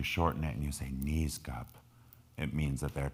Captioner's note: speaking in foreign language